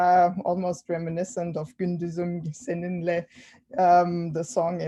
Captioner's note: non-english speech